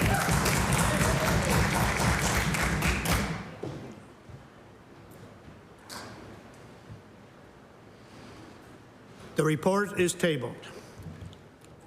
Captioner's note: applause